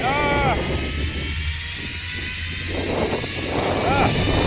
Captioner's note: drone whirring